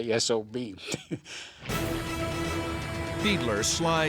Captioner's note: laughs